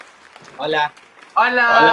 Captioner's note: in Spanish